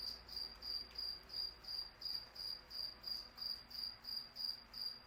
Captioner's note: cicada chirping